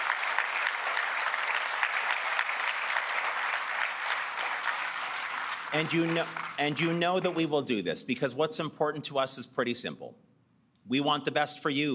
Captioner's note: applause